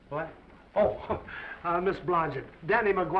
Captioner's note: laughs